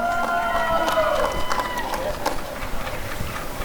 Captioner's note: applause and cheering